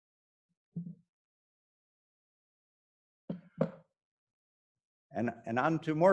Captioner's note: silence